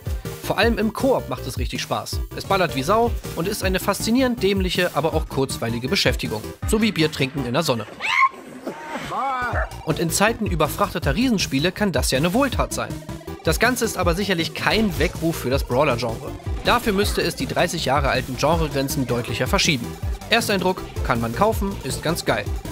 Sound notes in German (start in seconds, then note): 8.6 Schrei